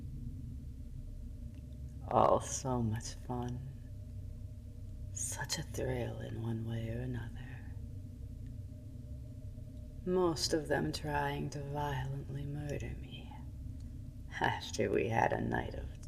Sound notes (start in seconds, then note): none